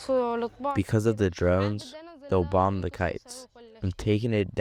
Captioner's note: through translator